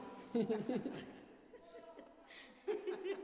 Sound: guys laughing; all laughing

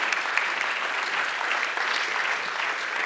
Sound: applause

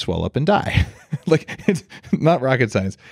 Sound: laughs

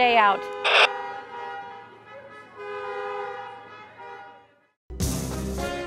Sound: honking

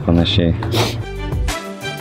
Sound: sniffs nose in Lithuanian

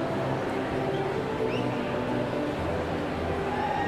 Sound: whistling

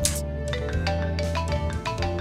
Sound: phone ringing

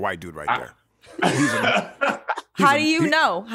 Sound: laughter

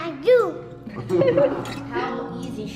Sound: laughter

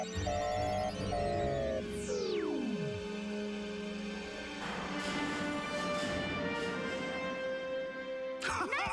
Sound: beeping slow; alarm beeping

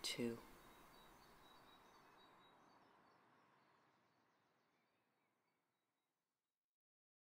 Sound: sound of birds chirping outside fades out

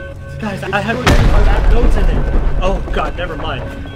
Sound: boom

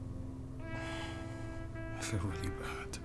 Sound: Nosa Sighs

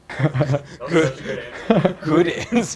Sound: laughs

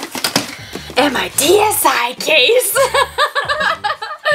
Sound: laughs

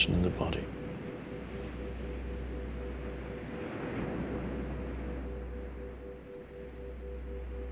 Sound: soft music; waves breaking distantly

